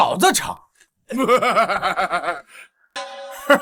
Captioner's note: sinister chuckle